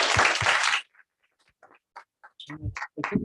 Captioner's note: applause